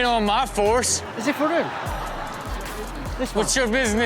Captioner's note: speaks in foreign language